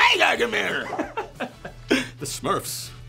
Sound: laughter

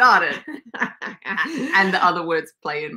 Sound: laughs

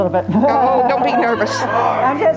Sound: laughter

